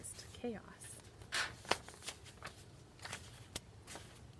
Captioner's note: rustling